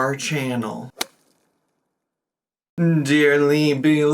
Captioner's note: golf club whacks